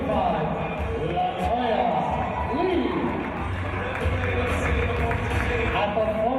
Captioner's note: applause